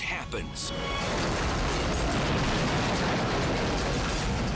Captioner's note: highway crashing; dramatic music